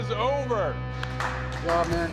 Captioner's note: applause